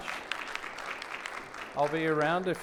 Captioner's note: audience clapping